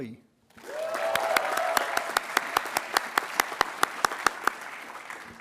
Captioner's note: attendees applauding and cheering